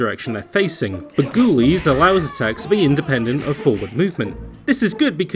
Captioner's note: Skeletons groaning, thrown punches